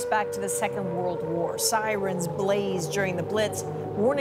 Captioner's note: sirens